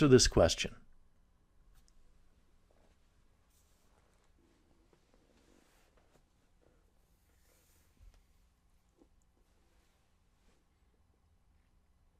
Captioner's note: pause